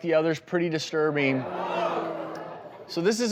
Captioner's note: audience gasping